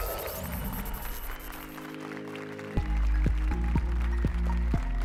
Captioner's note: applause and cheers